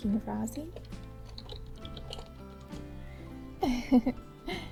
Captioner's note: typing noises, giggle